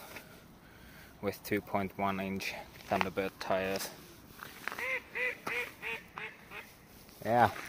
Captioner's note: duck squeaking